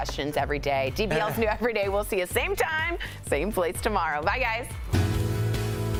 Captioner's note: laughter